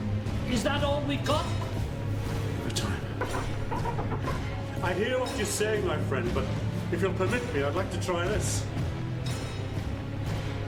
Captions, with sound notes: - Is that all we've got? - Give it time. (ship chirps) I hear what you're saying, my friend, but if you'll permit me, I would like to try this.